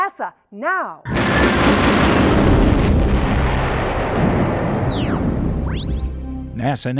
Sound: sound Effects

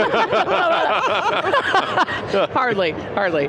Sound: all laughing

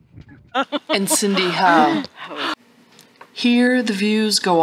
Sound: laughter

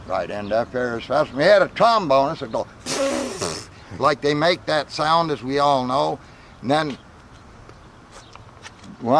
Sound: sputtering noise

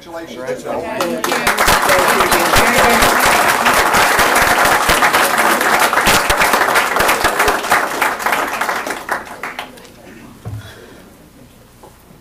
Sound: applause

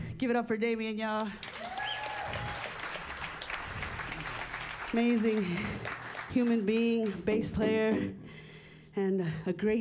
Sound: applause

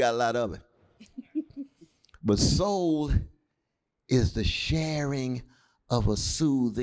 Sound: laughter

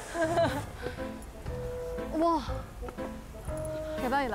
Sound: they move on with heavy footsteps

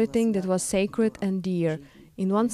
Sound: speaking Foreign Language

